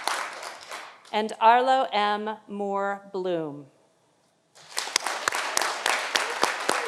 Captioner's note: audience applauding